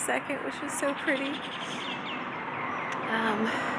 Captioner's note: birds chirping